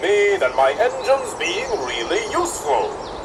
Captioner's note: none